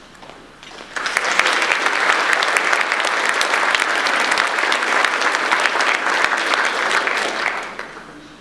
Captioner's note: audience applause